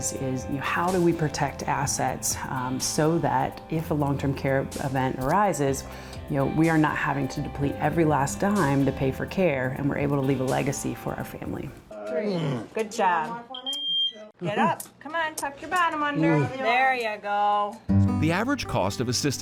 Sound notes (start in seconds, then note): 12.2 man grunts; 18.1 gentle piano music